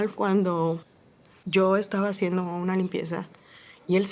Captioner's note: woman speaking Spanish